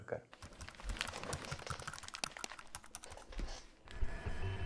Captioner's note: keyboard click; printer whirring